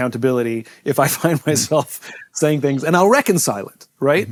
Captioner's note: chuckles